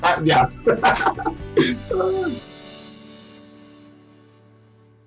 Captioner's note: laughs